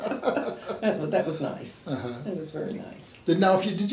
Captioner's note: laughs